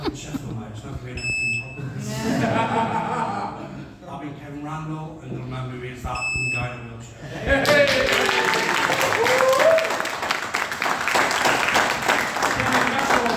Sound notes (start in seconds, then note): 6.1 beep; 7.6 applause